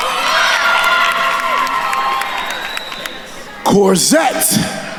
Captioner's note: attendees cheering and applauding